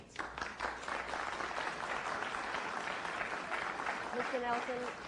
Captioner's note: applause